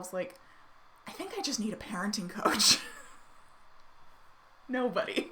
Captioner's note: chuckling